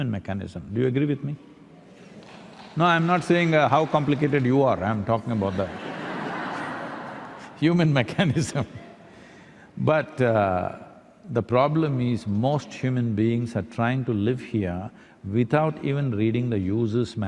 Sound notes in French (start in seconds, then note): 5.5 rire; 9.7 rires